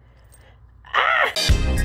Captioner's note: yells